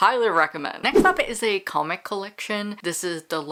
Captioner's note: whoosh